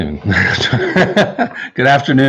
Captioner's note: laughing